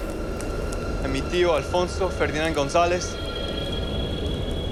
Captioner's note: speaking Spanish